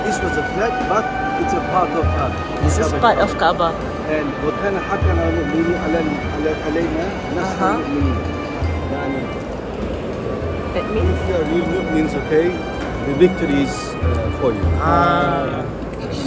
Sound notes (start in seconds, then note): 4.0 speaking Arabic